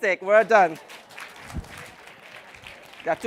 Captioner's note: applause